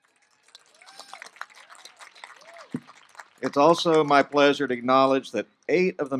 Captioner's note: applause